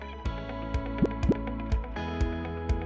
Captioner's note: upbeat music; graphic pops; upbeat music continues